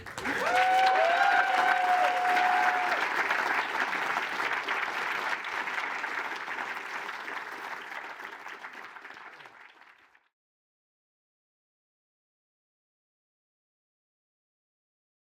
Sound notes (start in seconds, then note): 0.1 applause; 2.5 cheering; 5.9 applause